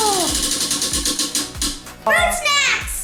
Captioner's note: wheel clicks